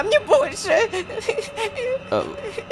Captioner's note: cries